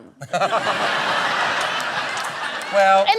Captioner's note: laughter